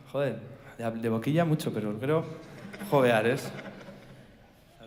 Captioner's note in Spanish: Risas